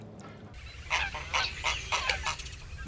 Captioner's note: birds squawking